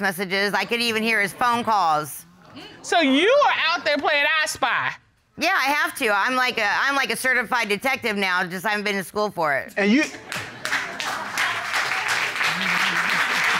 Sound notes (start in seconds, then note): 10.2 audience applauds